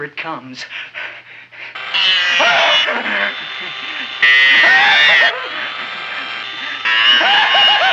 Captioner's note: drill whirring; Wilbur laughing